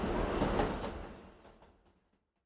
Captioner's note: subway sound